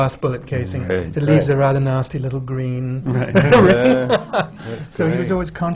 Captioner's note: laughter